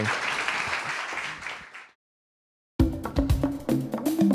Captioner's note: audience applauds